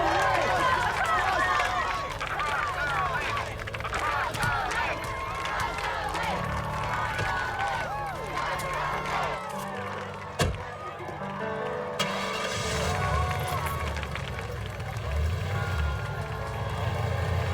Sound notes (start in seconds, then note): 2.2 crowd chanting; 11.9 engine starting